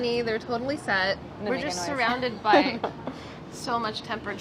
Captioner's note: laughs